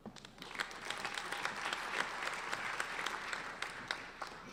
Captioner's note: applauding